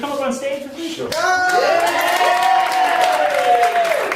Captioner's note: audience cheering